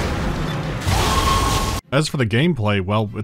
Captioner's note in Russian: крик Некромарва